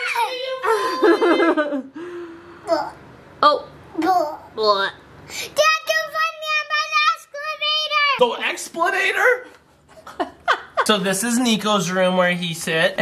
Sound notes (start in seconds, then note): 0.6 laughing; 2.9 making funny noises; 10.0 laughing